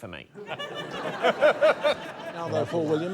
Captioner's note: laughter